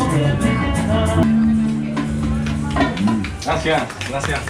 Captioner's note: applause